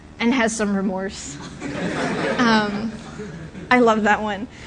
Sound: laughter

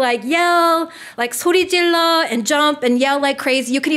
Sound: foreign language

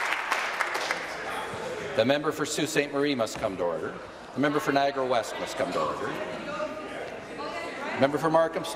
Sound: applause

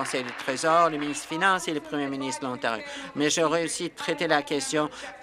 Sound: applause

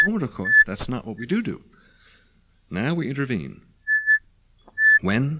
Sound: mic feedback; mic feedback

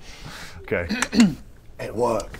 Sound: click click

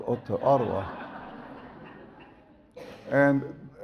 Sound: audience laughs

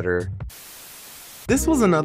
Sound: static buzzing

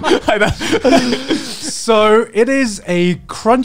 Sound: laughing

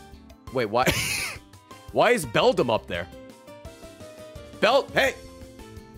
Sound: laughs

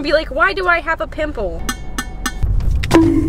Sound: clang clang clang

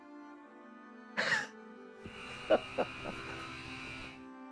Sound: laughs

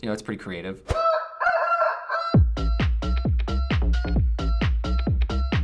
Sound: rooster crowing; upbeat electronic music

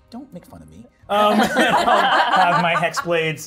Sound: participants laughing

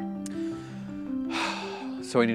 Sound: light music; sighs

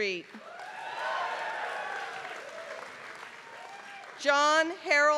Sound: applause

